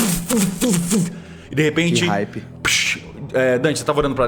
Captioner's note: pshh